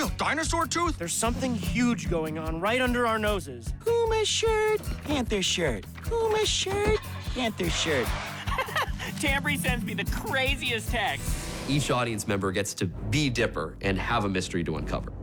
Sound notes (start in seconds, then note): 6.0 engine starts; 6.7 laughs